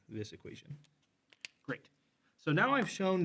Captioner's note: marker cap clacks